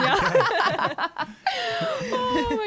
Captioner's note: laughing together